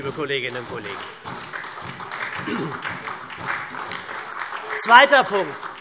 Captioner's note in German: Beifall